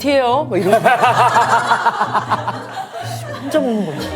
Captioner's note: hahahaha